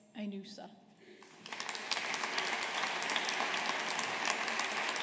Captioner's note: audience applauding